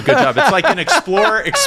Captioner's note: laugh